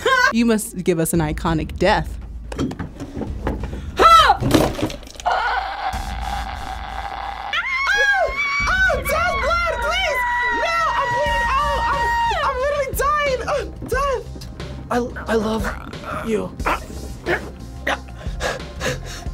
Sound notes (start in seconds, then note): 8.0 people yelling